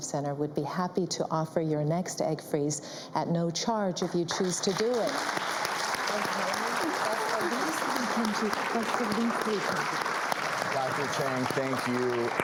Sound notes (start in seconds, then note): 5.2 audience applauds